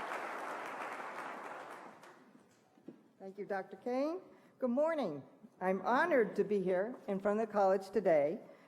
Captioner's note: applause